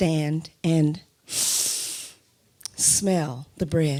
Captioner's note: inhales sharply